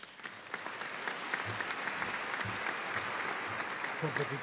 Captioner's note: audience applauding